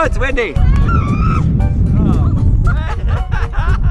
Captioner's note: laughter